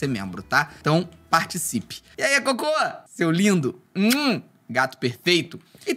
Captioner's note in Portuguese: som de beijo